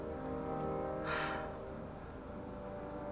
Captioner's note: sighs